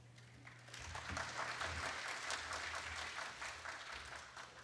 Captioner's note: applause